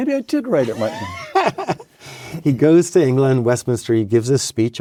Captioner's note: laughs